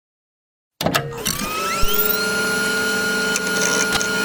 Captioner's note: machine buzzing